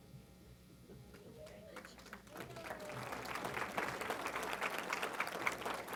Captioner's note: applause